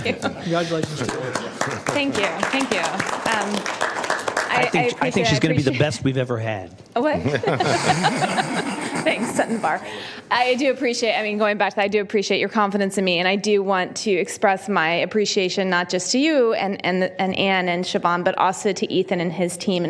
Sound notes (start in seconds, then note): 4.5 applause